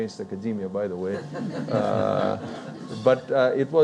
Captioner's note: audience laughing